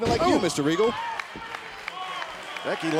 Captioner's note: crowd clapping